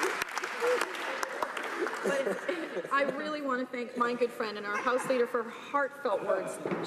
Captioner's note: laughter